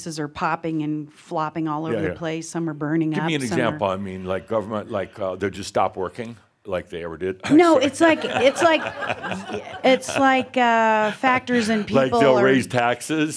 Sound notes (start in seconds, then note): 7.4 laughter